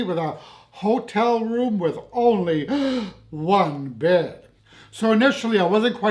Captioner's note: gasps!